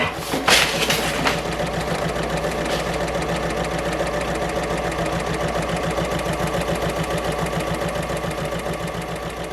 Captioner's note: sewing Machine Sounds